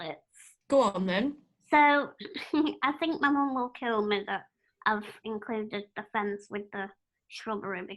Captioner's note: laughter